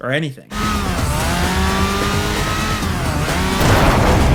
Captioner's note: sirens wail